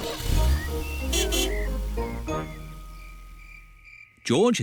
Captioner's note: horn honks